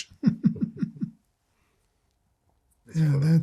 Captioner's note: laughing